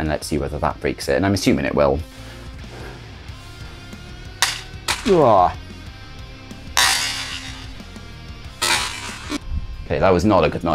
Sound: sound of drive falling

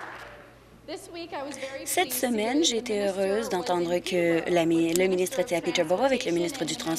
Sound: applause

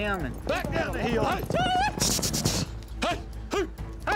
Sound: all shouting, prompting herd

